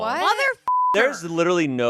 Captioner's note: beep